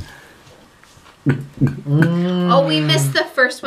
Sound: glugging

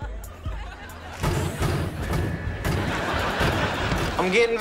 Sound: banging

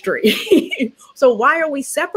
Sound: laughs

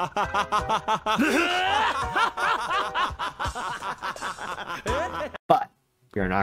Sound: mad scientist laughing; laughing

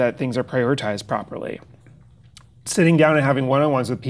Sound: none

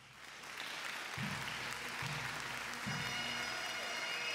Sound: audience cheers and applauds; jubilant bagpipe music

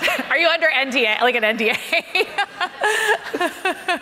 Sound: audience laughing; laughs

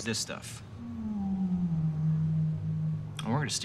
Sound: whale moaning

